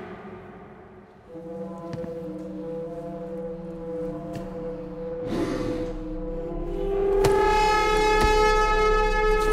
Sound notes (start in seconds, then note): 5.2 heavy breathing